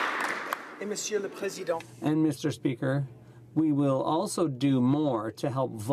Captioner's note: applause